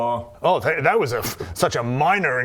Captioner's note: pff